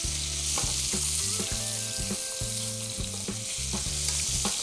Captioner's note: beef sizzles